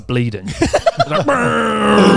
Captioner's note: laughs